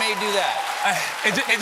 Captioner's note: cheers and applause